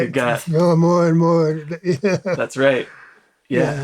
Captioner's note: laughs